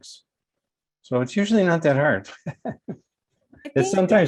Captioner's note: laughs